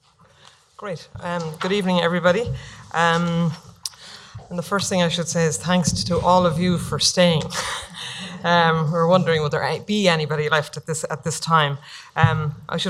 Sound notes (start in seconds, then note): 7.4 laughing